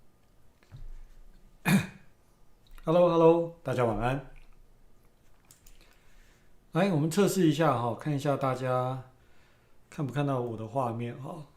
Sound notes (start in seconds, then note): 1.6 cough